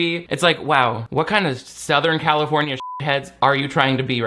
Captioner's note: beep